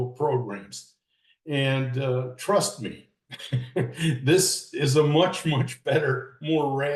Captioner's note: laughs